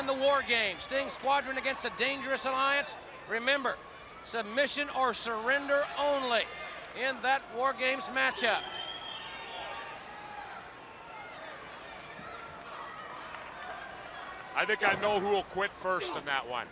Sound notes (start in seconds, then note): 9.6 crowd chatter